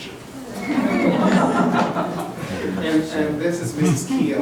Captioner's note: mambers laughs